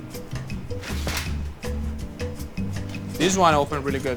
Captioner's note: gentle music; bread rustling